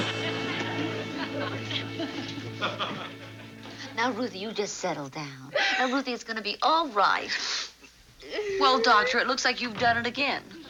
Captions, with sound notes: Now, Ruthie, you just settle down. Ruthie it's gonna be all right. (sobbing) Well, Doctor, it looks like you've done it again.